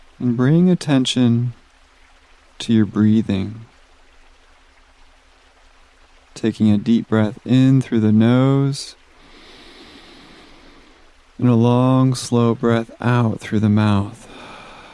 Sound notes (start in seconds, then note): 9.1 inhales gently; 14.2 exhales softly